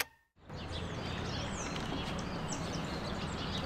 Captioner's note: birdsong and city sounds